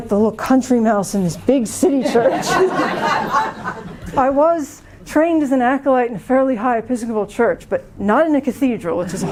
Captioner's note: laughter